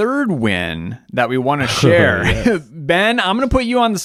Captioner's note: chuckling